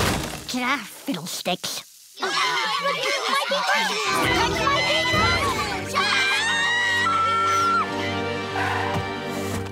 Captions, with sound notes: Ah, fiddle sticks. [clamouring] [screaming]